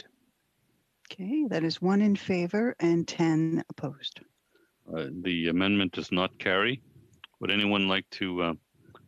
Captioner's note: speaking French